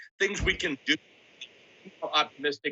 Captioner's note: audio cuts out